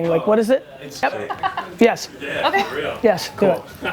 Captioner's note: woman laughs